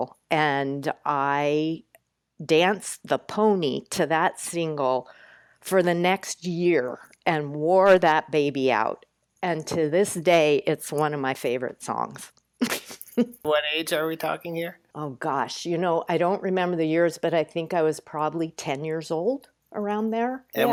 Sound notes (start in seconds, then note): 13.4 chuckles